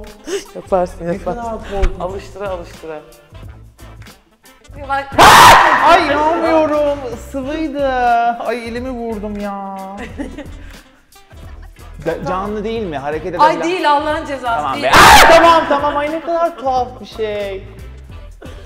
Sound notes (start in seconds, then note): 0.4 laughs; 5.2 cries out; 11.1 laughs